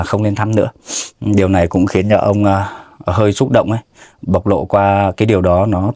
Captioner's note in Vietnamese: khịt mũi